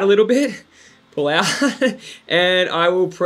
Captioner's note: giggles